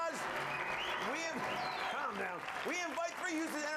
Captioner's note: audience cheering